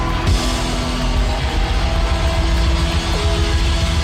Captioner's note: crowd cheering